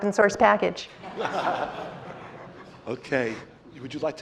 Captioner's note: laughter